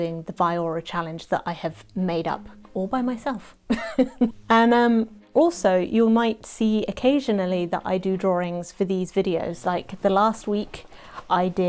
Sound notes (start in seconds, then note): 3.7 chuckles